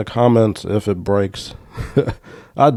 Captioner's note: laughs